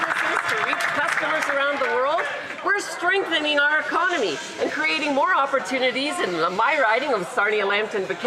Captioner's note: applause